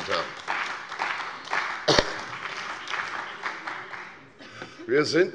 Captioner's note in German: Beifall bei der CDU und dem BÜNDNIS 90/DIE GRÜNEN